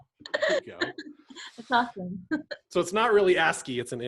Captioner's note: laughs